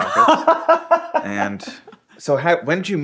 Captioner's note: laughing